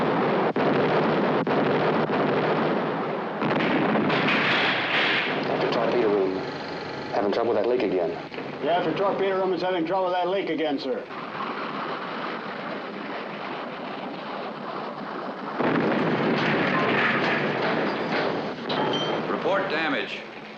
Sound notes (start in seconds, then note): 15.4 explosion